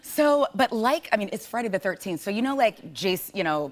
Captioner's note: none